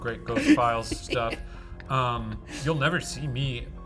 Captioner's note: laughing